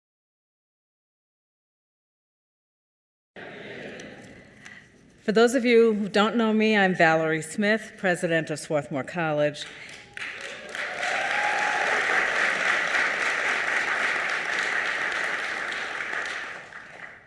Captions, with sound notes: - For those of you who don't know me, I'm Valerie Smith, President of Swarthmore College. (audience applauding)